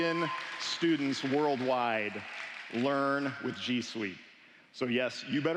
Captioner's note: applause